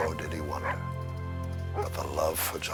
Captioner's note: Buck barking